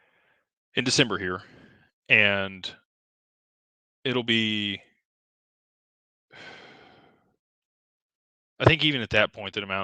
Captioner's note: sighs